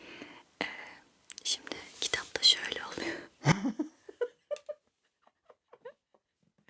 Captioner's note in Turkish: kahkaha